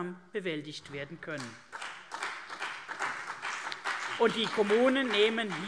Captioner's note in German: Beifall CDU und BÜNDNIS 90/DIE GRÜNEN